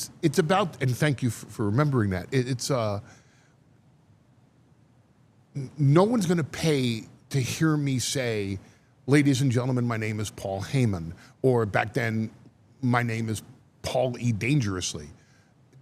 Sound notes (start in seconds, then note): none